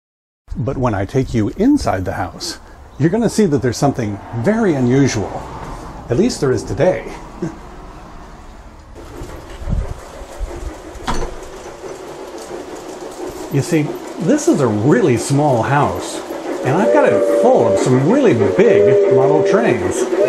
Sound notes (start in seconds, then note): 7.3 chuckles; 9.0 sounds of a steam train chugging